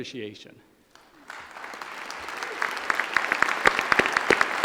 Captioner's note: applause